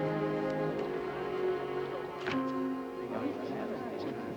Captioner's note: men chattering